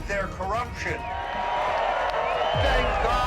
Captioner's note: crowd cheering